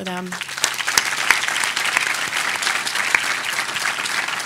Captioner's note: audience applauding